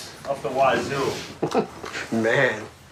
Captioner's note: Jeff laughs